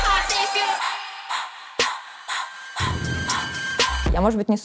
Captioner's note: rhythmic sharp breathing